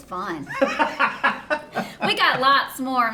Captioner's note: both laughing